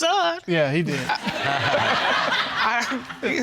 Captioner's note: audience laughs